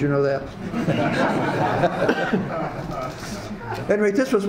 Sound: audience laughs

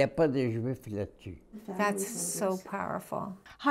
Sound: speaking French

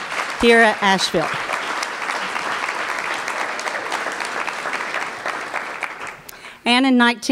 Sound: applause

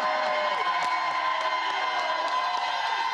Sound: cheers and applause

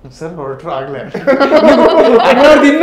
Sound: laughing

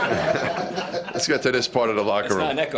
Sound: laughter

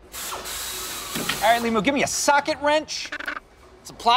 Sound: power-drill noises

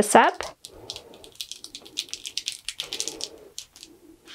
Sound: tape crackling

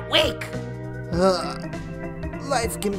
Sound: groaning

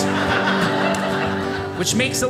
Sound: audience laughing

